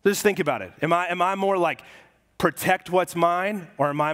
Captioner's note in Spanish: none